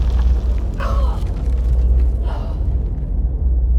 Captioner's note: grunting